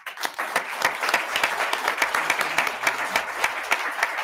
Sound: attendees clapping

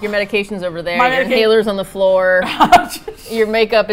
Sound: laughs

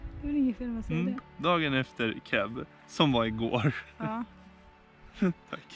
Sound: laughs

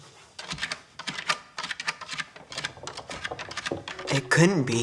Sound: scratching sound

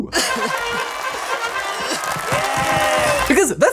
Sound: upbeat music; crowd applauds

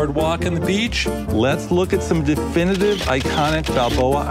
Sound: camera clicking

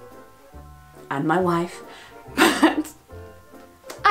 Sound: laughs

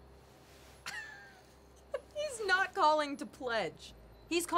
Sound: laughs

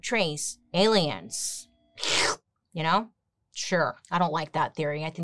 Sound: slurps

